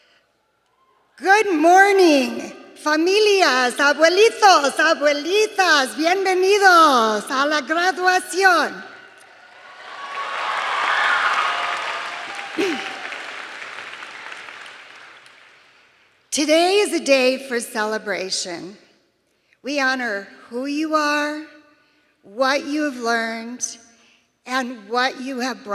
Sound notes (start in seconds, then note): 8.3 speaking in native tongue